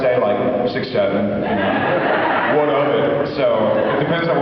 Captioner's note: laughs